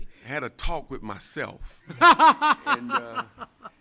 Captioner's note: laughter